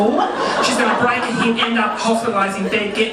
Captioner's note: audience laughing